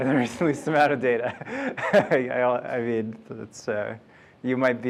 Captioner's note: laughs